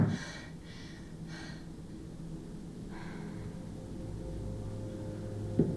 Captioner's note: Charlie heavy breathing